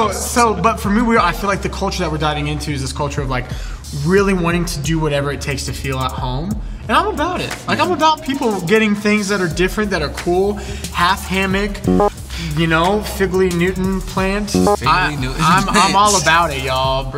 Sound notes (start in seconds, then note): 11.9 buzzer buzzing